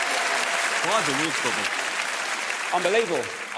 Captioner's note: audience cheers